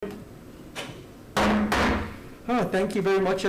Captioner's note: gavel striking